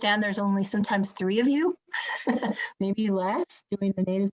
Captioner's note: chuckling